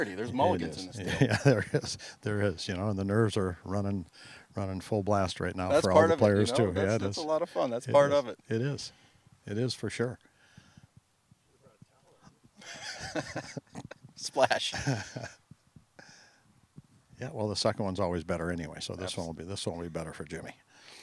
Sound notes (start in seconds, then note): 11.4 talking distantly; 12.6 laughing